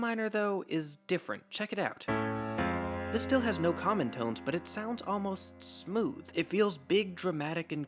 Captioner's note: bang